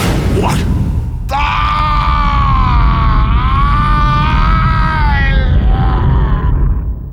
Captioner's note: painful scream